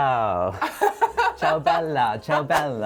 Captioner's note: laughs